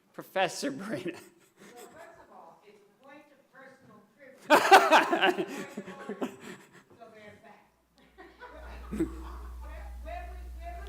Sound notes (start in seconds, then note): 1.0 laughter; 4.1 laughing